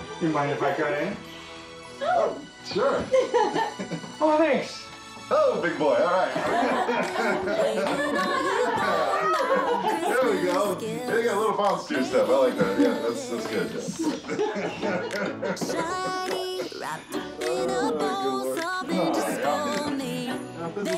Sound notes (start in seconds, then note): 6.1 people laughing; 12.3 music drowning out speakers